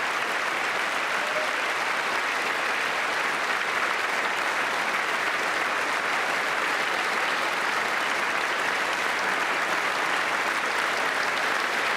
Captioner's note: applause